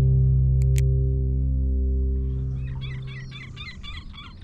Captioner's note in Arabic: نقر بالماوس